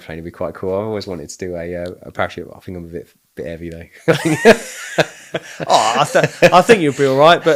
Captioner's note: laughing